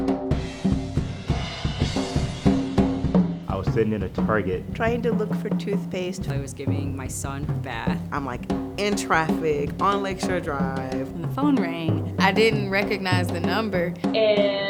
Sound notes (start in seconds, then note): 3.8 various voices